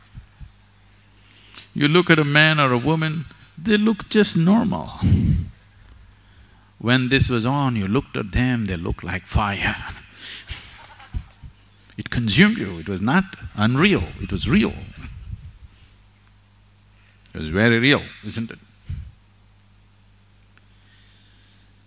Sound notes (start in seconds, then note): 10.6 laughter; 20.6 laughs